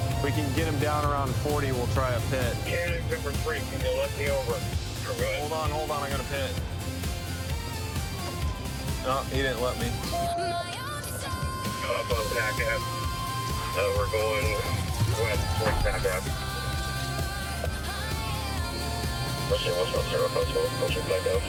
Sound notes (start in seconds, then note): 16.6 sirens wailing